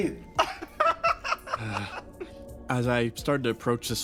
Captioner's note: laugh